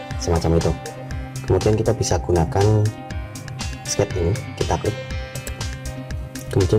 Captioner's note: click